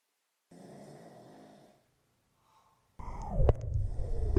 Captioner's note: Phil snoring